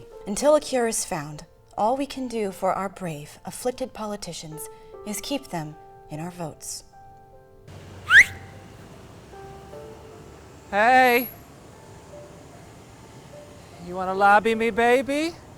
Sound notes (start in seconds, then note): 7.8 whistle